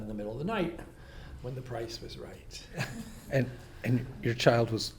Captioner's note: laughs